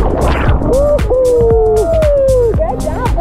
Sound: people cheering

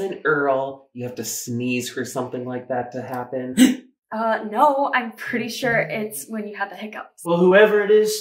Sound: hiccup

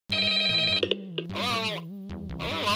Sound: phone

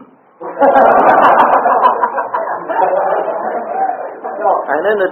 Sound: audience laughter

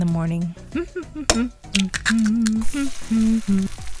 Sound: chilli humming

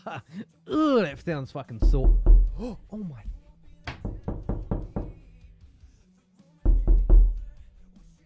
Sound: background alert: Realistic Knocking

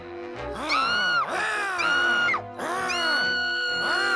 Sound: growling; screaming

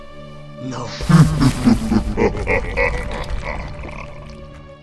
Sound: evil laugh

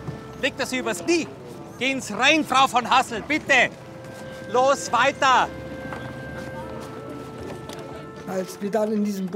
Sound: speaks in foreign language

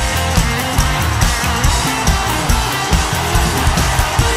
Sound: audience cheering

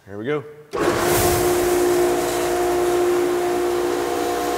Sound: machine humming

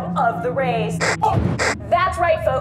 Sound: explosion

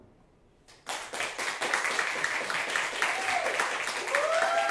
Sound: audience applauding

